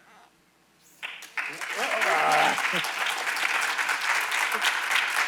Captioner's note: audience applauds